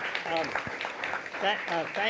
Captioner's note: applause